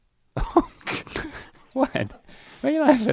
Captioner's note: laughs